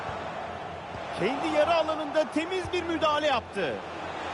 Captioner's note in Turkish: coşkulu tezahürat